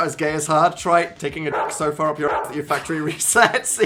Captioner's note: bark